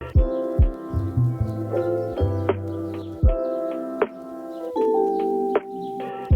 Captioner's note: birds chirping; gentle music